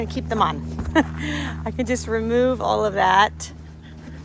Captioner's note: laughs